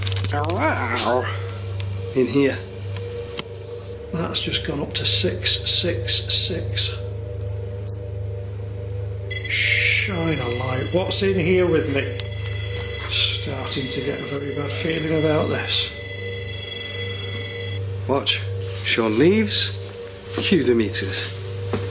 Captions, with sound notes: (creaking imitation) in here. - That's just gone up to 666. Shine a light, (alarms blaring) what's in here with me? I'm starting to get a very bad feeling about this. - Watch, Sean leaves, queue the meekses.